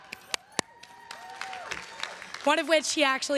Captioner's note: everyone cheering and applauding